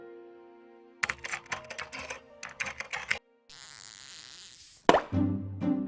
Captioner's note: computer keys clicking; champagne bottle pops; energetic, bouncy music